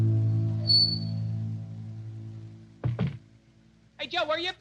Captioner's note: door creaks